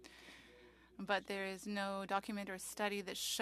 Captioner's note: speaking French